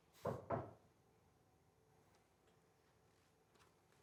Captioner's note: knocking